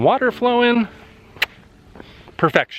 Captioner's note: kiss